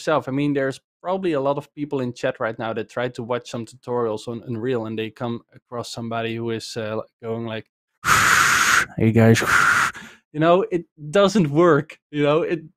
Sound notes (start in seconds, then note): 9.3 breathes into the mic